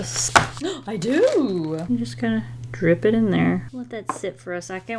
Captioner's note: gasps